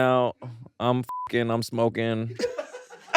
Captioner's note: beep; all laughing